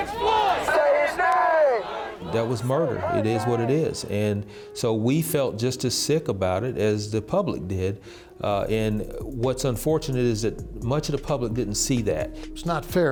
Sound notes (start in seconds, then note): 0.0 crowd